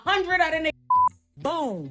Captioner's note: beep